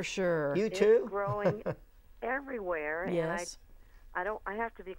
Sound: laughing

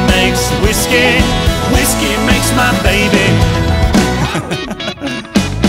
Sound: laughing

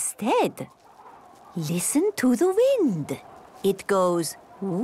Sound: wind blowing

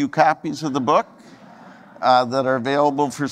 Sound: audience laughing

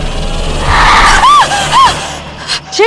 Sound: screams

